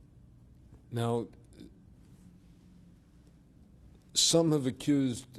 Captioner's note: pauses for 3 seconds